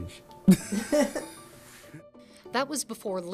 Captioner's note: laughing